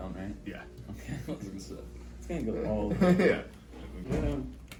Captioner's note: laughs